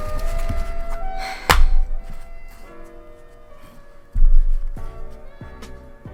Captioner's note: defeated sigh